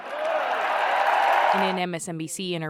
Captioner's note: cheering